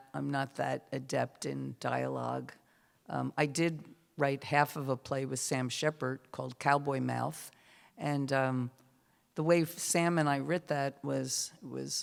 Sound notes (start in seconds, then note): none